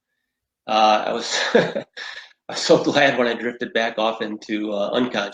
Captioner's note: chuckles